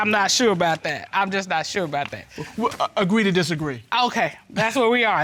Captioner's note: stammers